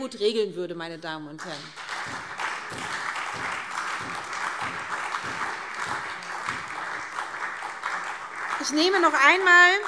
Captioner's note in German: Beifall SPD und Freie Demokraten